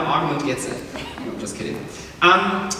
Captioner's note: chuckles